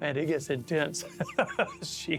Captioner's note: chuckles